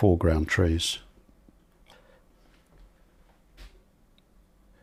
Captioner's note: silence